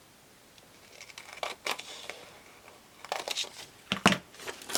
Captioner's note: scissors snipping